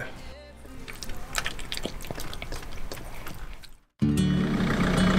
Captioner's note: smacking